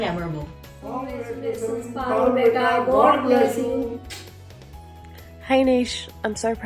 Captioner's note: in Unison